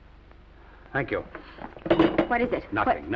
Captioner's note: phone clatters down